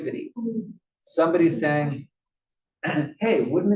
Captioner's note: cough